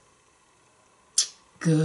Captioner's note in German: smooch